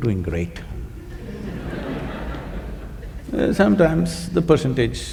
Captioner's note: laughter